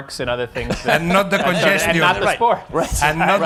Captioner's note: laughter